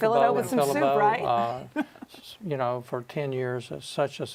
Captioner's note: laughs